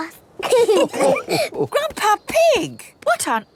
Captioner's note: all laughing